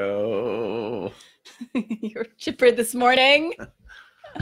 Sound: laughing

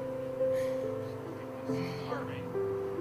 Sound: sighs

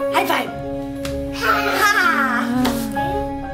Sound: laughing

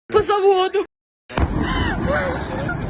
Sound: explosion

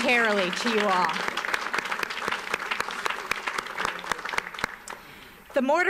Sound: audience applauds

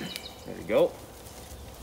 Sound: laughs

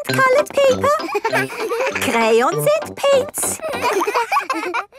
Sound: all laughing

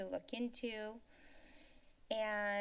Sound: inhales

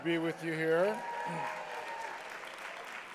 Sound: applause

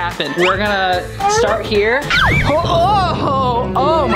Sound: groans

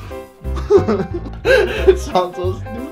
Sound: stereotypical French laughter; giggling

